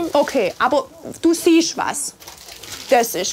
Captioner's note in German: none